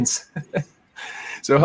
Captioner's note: laughs